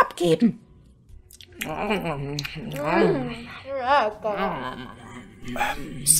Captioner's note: relaxing dungeon cookie eating sounds; whispering